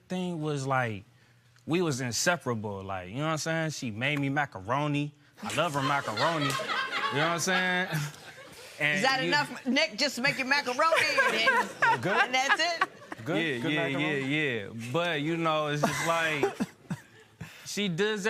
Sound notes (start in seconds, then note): 5.4 laughter